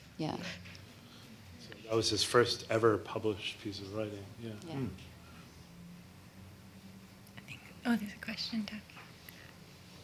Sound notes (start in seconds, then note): 7.2 whispering